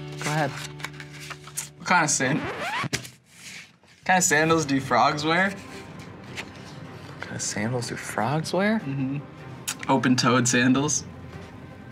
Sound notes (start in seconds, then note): 2.2 record scratching